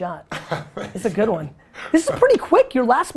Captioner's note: laughs